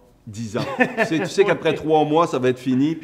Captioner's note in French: rires